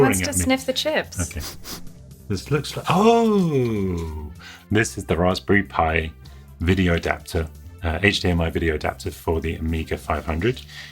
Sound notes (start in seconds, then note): 1.4 dog sniffing